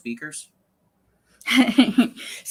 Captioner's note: laughs